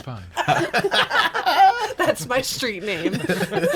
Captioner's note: group laughs